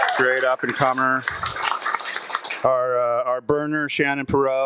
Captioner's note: audience applauding